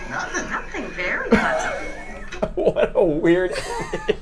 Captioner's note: laughs